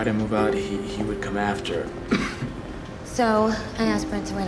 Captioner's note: coughs